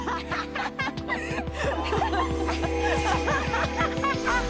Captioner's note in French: rires